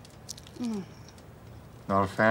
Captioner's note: Daphne groans